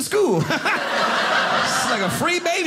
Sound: audience laughing

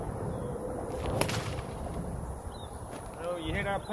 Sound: whip cracks

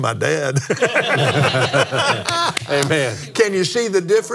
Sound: laughs

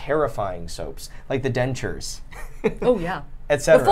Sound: laughs

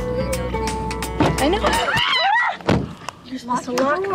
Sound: screams and door slamming

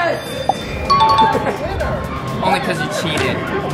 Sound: winning bell

